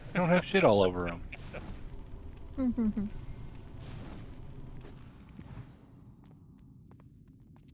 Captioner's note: laughter